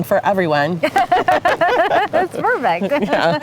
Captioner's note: laughing